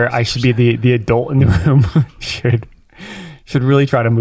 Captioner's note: chuckles